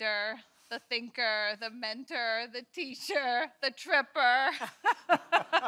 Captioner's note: laughs